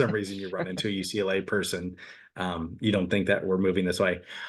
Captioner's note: laughs